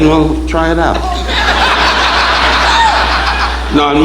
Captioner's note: audience laughing